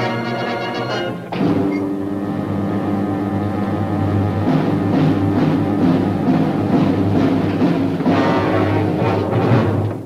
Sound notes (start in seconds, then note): 1.4 door clicks; 4.4 suspenseful percussive music